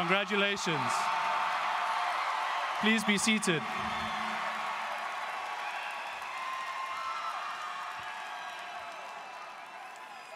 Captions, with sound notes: Congratulations. (students cheering) Please be seated. (students cheering and applauding)